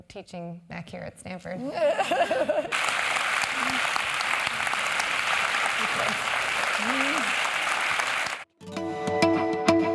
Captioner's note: laugh; applause